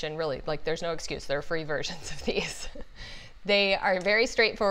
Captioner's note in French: rires